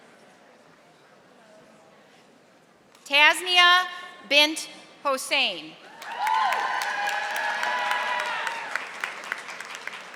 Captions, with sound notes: Tasia Bent Hossain. (audience applauding)